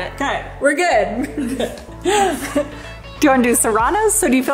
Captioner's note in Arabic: كلاهما يضحك